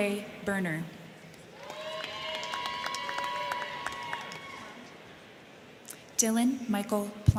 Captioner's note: crowd cheering; crowd clapping